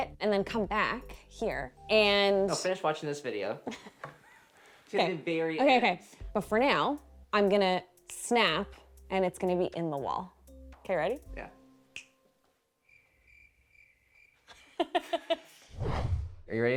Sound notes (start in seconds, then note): 12.0 finger snaps; 12.8 crickets chirping